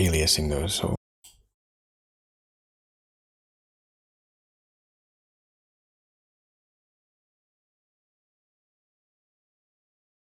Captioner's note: blank Audio